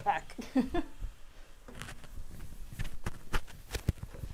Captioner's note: laughing